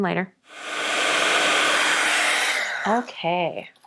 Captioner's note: blower whooshing